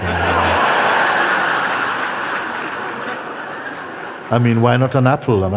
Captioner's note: laughter